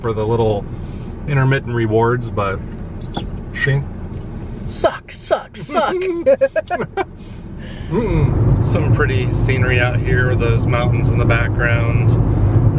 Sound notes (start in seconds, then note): 5.6 laughter